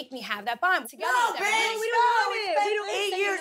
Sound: yelling

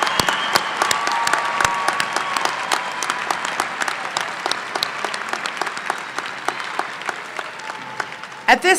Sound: applause

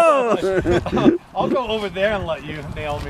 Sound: laughter

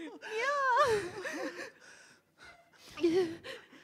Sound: sobbing

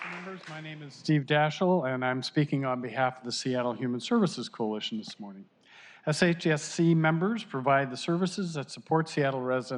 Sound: applause

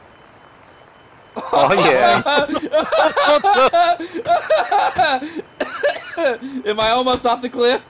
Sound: panicked laughter

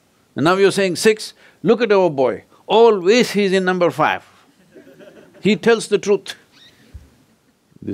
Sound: laughter

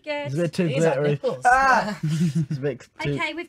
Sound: chuckling

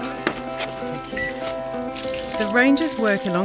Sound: gentle music; electronic device beeps

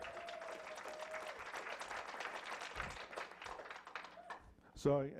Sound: clapping

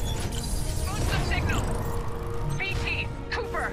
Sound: radio

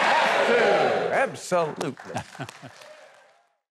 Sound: Mike chuckles

